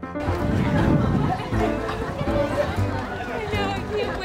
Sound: intense piano music; students chattering

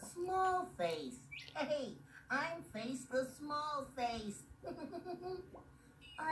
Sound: giggles

